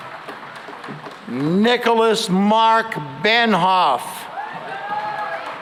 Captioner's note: cheering and applause